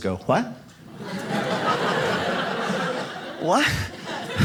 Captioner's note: audience laughs